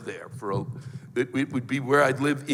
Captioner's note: stammers